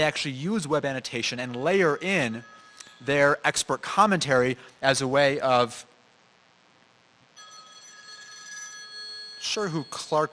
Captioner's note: phone ringing